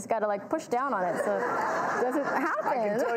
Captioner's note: audience laughs